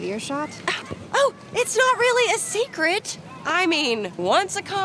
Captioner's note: scoffs